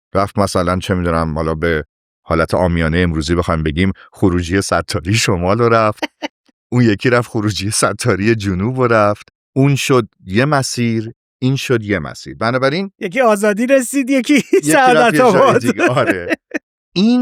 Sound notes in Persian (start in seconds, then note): 14.3 خنده